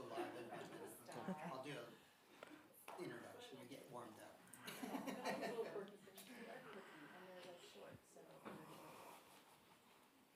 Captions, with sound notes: - So we'll go live, and then I'll do an introduction. We get warmed up (laughs). (attendees chattering)